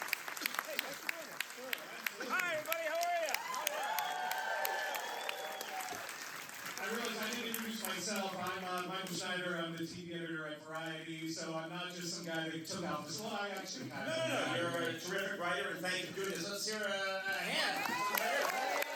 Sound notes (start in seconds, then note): 5.5 applause